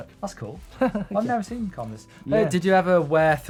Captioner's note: laughing